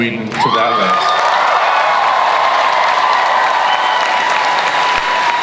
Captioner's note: crowd cheers and applauds